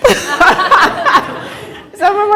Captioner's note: laughter